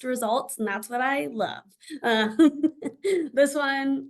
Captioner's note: laughs